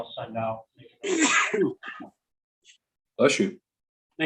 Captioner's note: sneezing